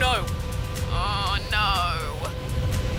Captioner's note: groaningly